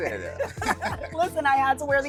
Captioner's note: both chuckle